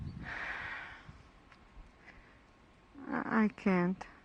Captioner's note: sighs